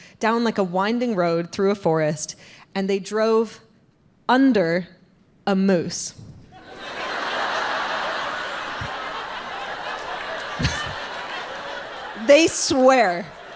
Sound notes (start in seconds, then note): 6.6 audience laughs